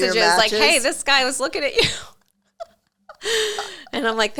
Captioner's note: laughs